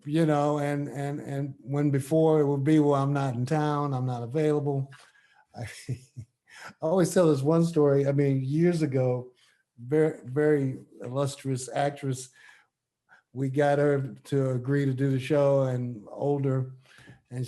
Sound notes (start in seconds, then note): 5.6 chuckles